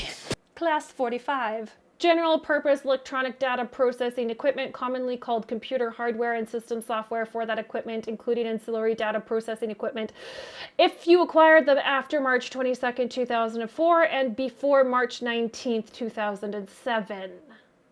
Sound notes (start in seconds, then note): 10.2 gasps for air